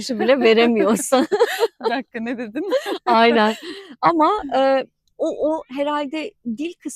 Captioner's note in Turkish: kahkaha